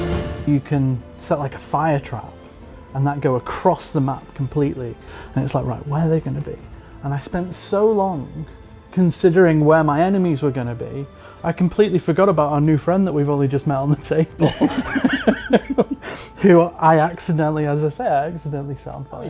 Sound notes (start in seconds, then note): 14.3 laughs